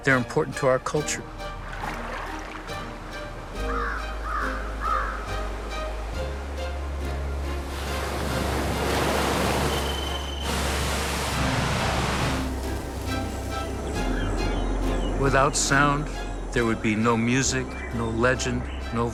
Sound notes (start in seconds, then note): 1.9 water flowing; 3.6 crow cawing; 7.8 waves washing; 9.0 crickets ringing; 11.0 water falling